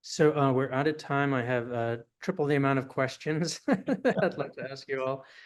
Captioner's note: laughs